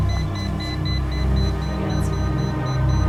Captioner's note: beeping